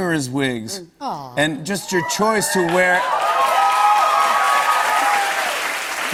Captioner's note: cheers and applause